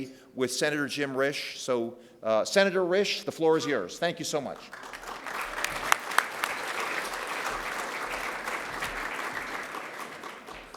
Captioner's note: applause